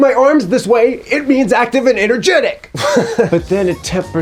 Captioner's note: laughs